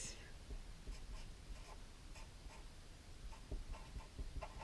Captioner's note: pen scratching